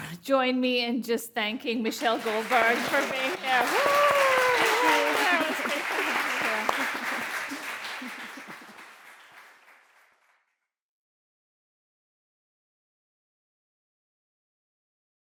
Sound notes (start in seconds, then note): 3.3 audience applauding; 4.6 chuckles; 7.4 audience applauding